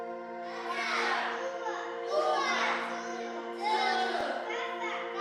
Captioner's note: class speaks in CHamoru